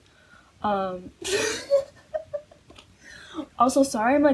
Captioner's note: wheeze